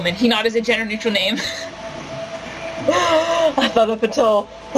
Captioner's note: laughter